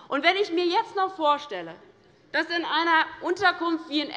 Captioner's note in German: none